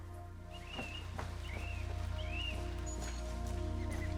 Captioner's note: bird chirps